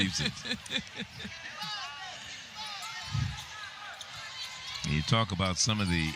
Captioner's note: laughter